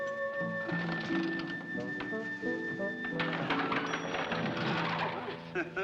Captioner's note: window rattles; chuckles